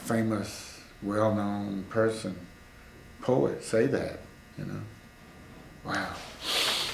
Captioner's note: laughs